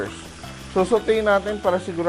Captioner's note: sizzle